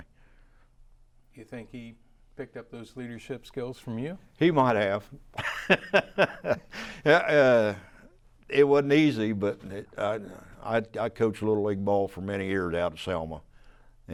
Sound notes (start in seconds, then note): 5.3 laughs